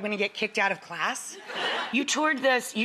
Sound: audience laughing

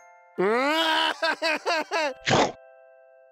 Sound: cries

